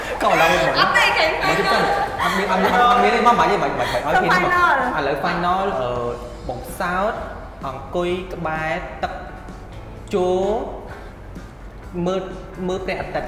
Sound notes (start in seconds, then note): 0.0 laugh